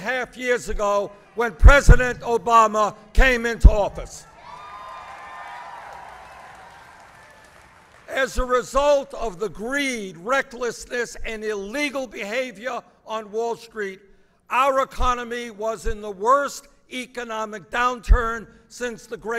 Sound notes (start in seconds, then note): 9.1 applause